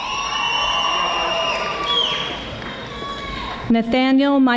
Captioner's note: audience applauding